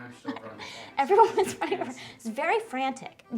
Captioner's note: chuckles